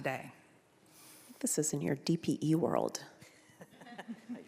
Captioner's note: laughing